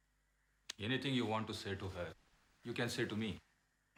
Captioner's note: none